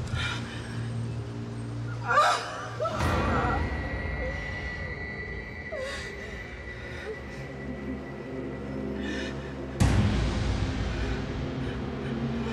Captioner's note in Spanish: gemidos